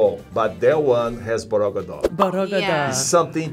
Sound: speaks foreign language

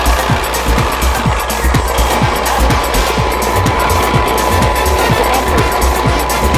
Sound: rattling

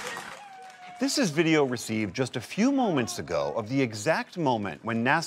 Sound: cheering

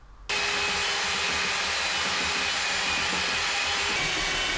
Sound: sander whirring

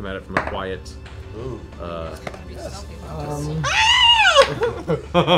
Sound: pterodactyl screech

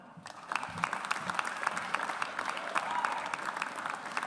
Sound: audience applauds

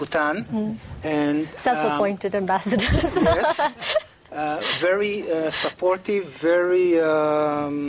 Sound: laughing

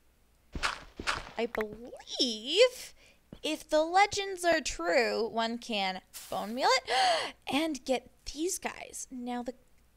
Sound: gasp

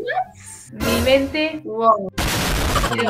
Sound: Spanish

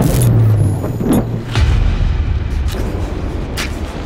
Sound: thunder cracking

